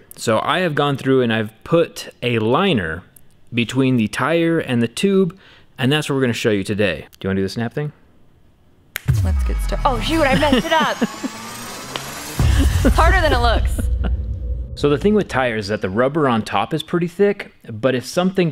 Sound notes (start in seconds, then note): 11.8 snap